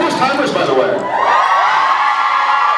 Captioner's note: cheers